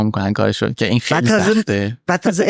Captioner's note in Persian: خنده